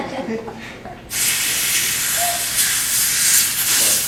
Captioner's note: balloon fills